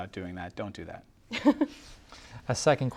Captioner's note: chuckles